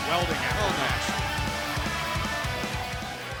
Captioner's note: crowd cheering